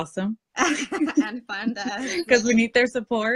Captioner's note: laughter